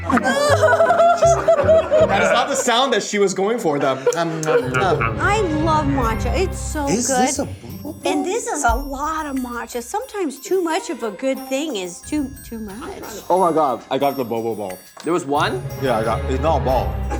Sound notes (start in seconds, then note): 0.0 cry laughing; 4.7 mimicking chewing sounds